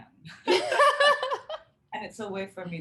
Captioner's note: both chuckling